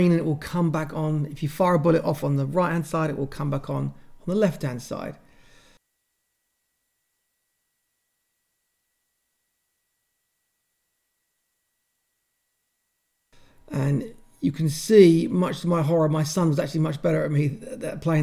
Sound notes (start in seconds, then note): 5.3 pause